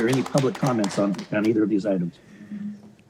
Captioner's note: applause